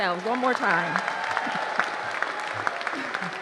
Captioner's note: applause